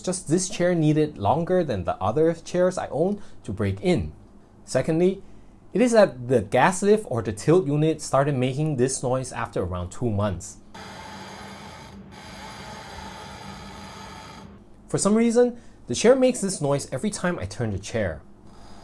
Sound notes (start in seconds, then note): 10.8 squeaking sound